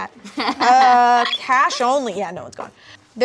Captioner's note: woman black dress laughing